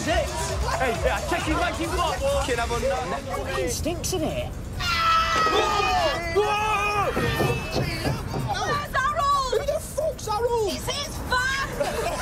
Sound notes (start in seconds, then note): 4.8 screaming; 11.6 laughter